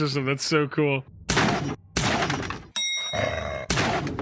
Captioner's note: gun firing; bell dings